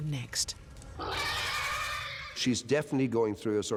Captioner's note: they screech